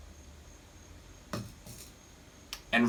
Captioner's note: cup Clinks Against Saucer